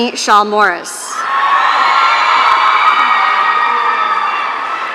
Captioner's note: audience cheering